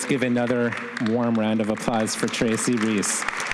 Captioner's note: audience applauding